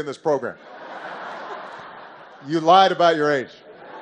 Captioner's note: laughter